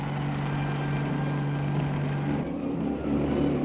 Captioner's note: boat rumbling